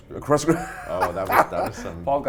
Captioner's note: laughs